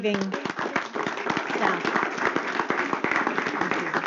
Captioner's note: applause